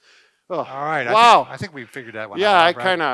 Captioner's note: sighs